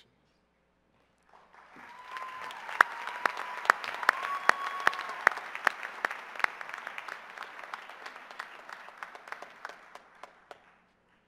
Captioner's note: cheers and applause; silence